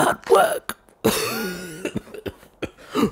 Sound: coughing

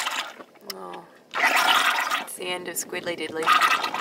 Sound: squid ink bubbling; squid ink bubbling

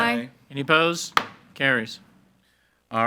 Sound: gavel bangs

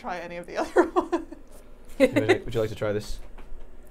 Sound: Safiya laughing; laughing

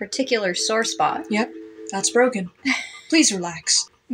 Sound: quiet Laugh

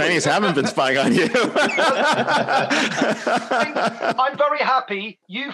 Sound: laughter

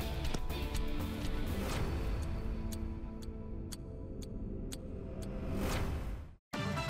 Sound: clock ticking; powerful music

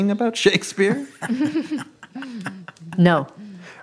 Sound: laughing

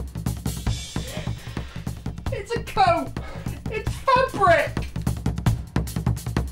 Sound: whimpering

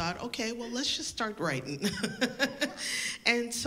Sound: laughs

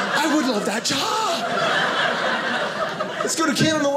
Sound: audience laughing

